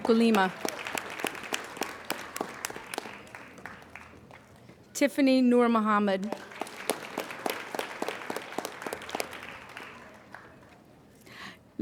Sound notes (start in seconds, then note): 0.0 applauding